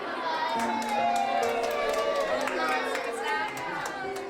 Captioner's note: cheers